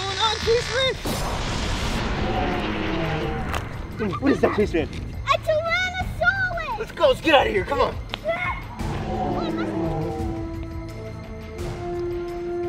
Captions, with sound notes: What's going on, Chase-man? (explodes) (dinosaur roaring) What is that, Chase-man? - A Tyrannosaurus! - Let's go, let's get outta here, come on! (dinosaur roaring) (intense music)